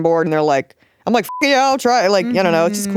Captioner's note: beep